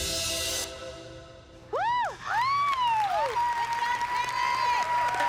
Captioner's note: cheering, applause